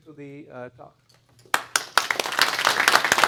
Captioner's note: clapping